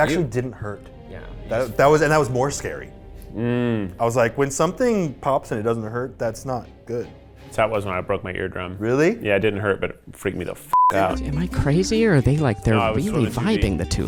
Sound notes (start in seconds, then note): 3.2 humming